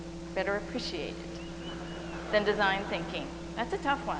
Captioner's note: audience cheering